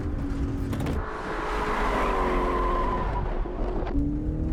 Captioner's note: wheels squealing; engines revving